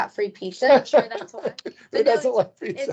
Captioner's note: laughing